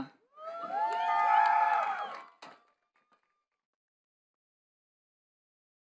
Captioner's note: attendees cheering and clapping